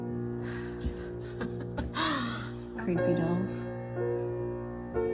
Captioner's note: chuckles